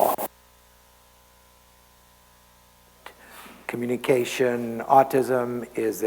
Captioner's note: mic cuts out